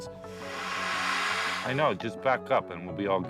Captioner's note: bear hissing